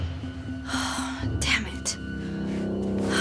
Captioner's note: sighs